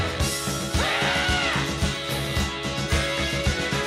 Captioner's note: shrieks